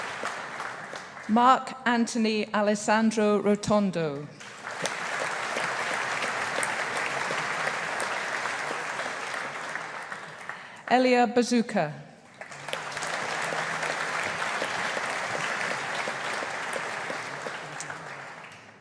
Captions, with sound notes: Marc-Anthony Alessandro Rotondo. (AUDIENCE APPLAUDING) Elia Bazzucca. (AUDIENCE APPLAUDING)